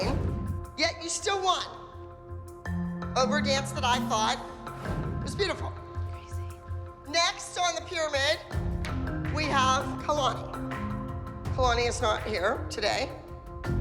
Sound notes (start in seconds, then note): 5.9 whispering